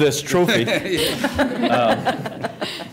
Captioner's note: laughter